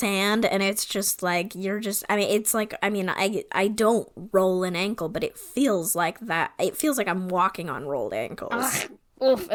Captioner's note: stammering